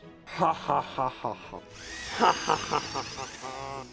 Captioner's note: maniacal laughing